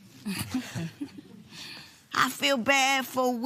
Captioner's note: both chuckle